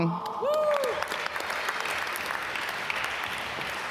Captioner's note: applause